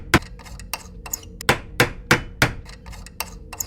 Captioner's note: hammering; screwdriver sounds; hammering; screwdriver sounds